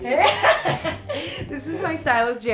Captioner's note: laughing